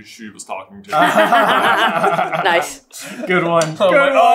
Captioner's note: laughter